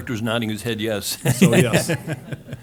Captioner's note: laughs